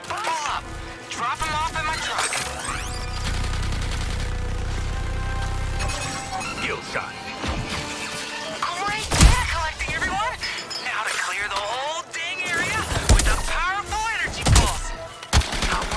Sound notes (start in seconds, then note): 3.0 engine rumbling; 9.0 guns firing